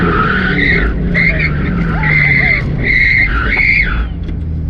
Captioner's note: multiple screeches from deceleration